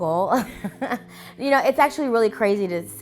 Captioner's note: chuckling